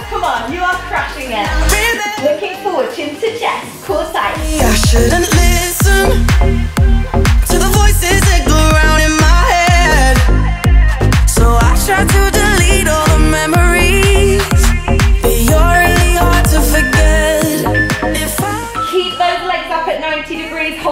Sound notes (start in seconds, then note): 16.8 timer beeping